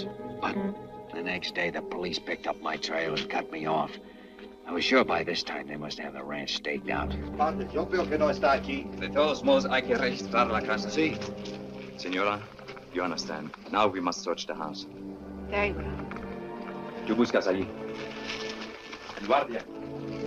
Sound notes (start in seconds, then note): 7.0 officers speaks Spanish; 16.7 officer speaks Spanish